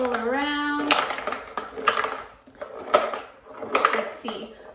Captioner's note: marbles rolling